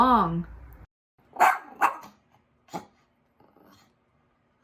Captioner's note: dog barks